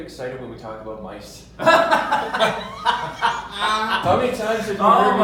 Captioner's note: laughs loudly